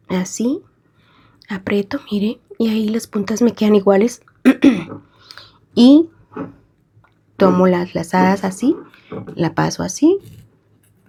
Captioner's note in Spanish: carraspeo